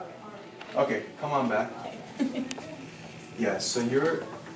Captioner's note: laughing